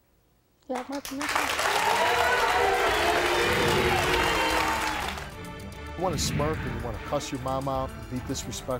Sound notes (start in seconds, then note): 0.8 audience applauding